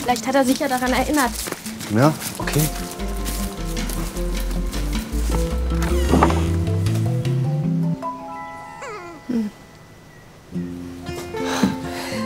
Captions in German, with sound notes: Vielleicht hat er sich ja daran erinnert. - Na ja, okay. (Angespannte Musik) (Quietschen) (Winseln, Musik verklingt.) (Seufzen)